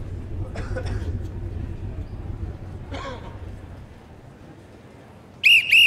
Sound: crowd member coughs

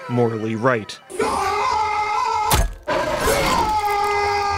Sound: soldier screams

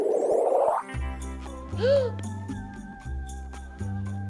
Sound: gasps

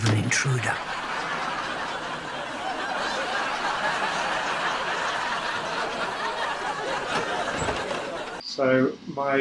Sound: laughs

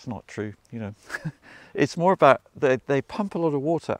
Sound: chuckles

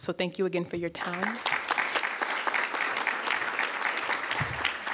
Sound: audience applauds

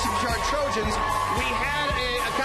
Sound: cheers and applause

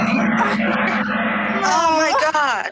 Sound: laughing

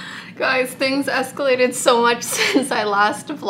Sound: chuckles

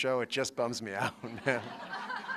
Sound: laughter

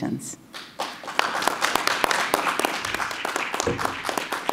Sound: crowd clapping

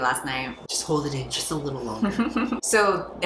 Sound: laughs

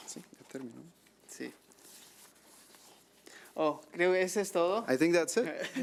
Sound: man speaking foreign language

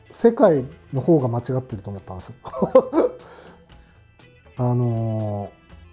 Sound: laughing

